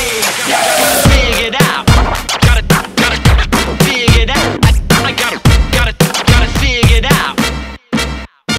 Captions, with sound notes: I got it figured out! (record scratching)